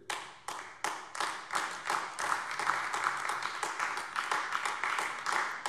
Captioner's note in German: Beifall AfD